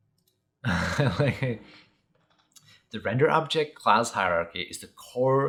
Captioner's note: laughs